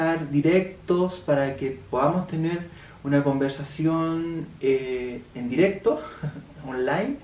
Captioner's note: laughs for redundant